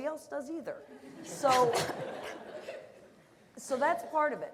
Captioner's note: laughter